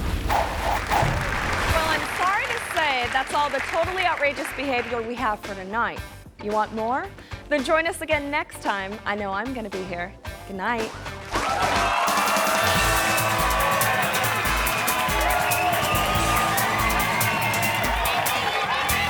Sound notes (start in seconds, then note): 0.8 audience applause; 11.2 audience applause; 11.6 energetic music